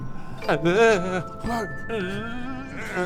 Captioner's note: telepathing noises